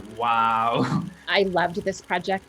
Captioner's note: chuckles